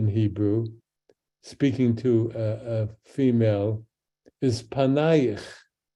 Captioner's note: speaks in Hebrew